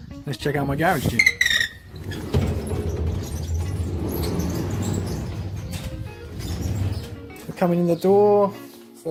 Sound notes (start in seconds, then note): 1.0 garage gate squealing